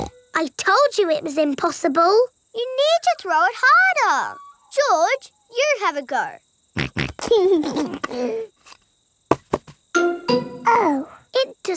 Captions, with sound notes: (SNORTS) I told you it was impossible. You need to throw it harder. George, you have a go. (SNORTS AND LAUGHS) Oh.